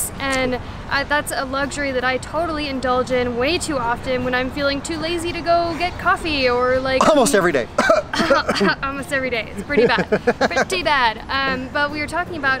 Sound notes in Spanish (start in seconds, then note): 7.7 tos; 9.6 risas